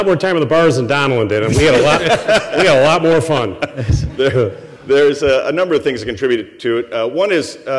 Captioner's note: laughter